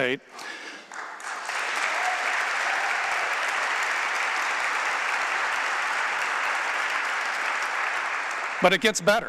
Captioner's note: applause